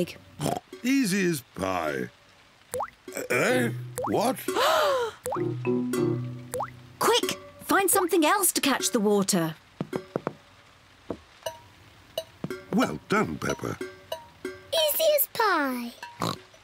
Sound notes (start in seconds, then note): 0.4 oinks; 4.5 all gasp; 16.2 oinks